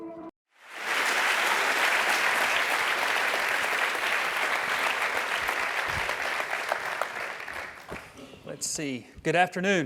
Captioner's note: applause